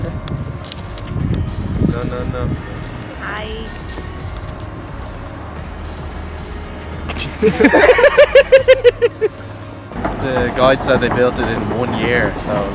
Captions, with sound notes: - Hi. (laughing) - The guide said they built it in one year.